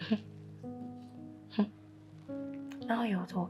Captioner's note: scoffs